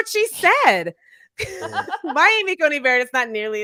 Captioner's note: both laughing